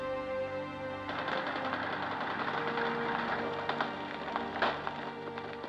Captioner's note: machine gun firing